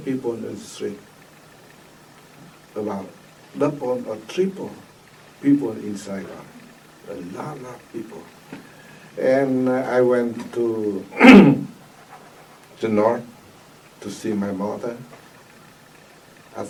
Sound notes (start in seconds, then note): 11.1 coughs